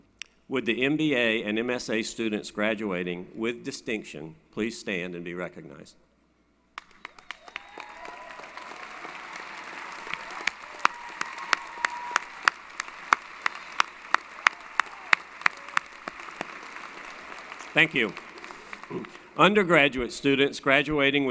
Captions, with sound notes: With the MBA and MSA students graduating with distinction please stand and be recognized. [ Applause & Cheering ] Thank you. Undergraduate students graduating